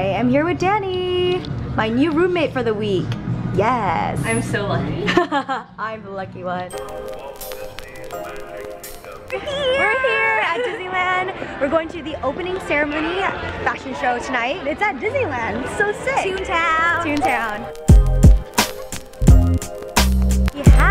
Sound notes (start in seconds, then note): 5.6 laughs; 6.6 calm music; 17.6 lofi hip hop